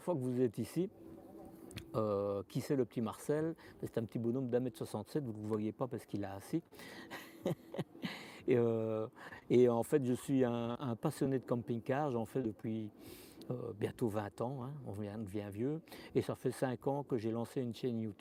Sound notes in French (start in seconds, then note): 7.0 rires